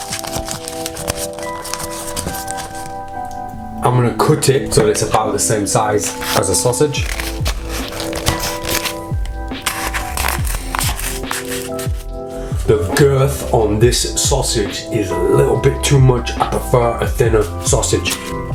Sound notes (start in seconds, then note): 0.1 cardboard crackles; 7.4 cuts cardboard